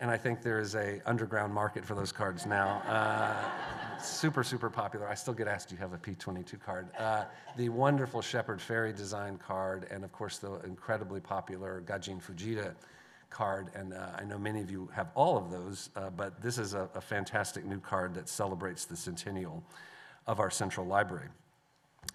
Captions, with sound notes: I think there is an underground market for those cards now. [laughter] Super, super popular. I still get asked, "Do you have a P-22 card?" The wonderful Shepard Fairey design card, and of course, the incredibly popular Gajin Fujita card. I know many of you have all of those, but this is a fantastic new card that celebrates the centennial of our central library.